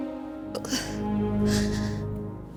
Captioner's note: Mayday sobs